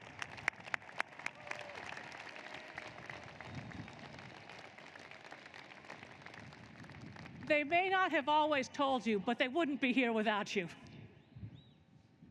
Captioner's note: applause